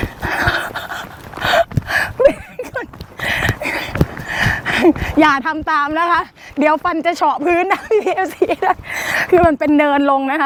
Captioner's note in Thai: เสียงหัวเราะ